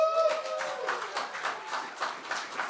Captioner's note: applause